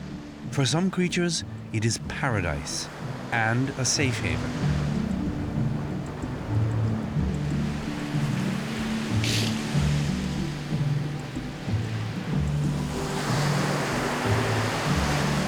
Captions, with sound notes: As inhospitable as this isolated island may seem, for some creatures it is paradise and a safe haven. [waves advancing] [seal sniffs]